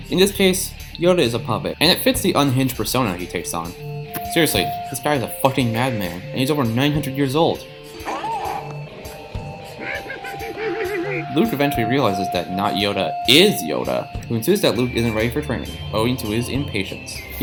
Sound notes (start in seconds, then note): 8.0 ah! Mhmhmhmhmhmhm!